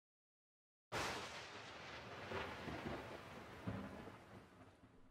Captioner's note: thunder booming